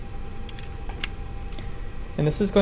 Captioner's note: USB clicks